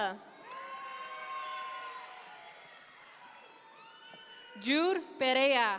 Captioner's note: audience members cheer